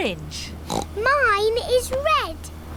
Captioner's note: oinks